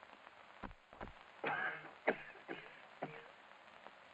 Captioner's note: coughing